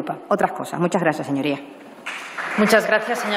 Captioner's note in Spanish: Aplausos